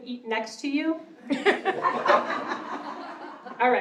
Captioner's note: laughter